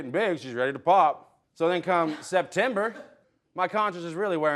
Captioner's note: chuckles